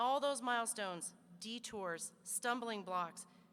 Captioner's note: none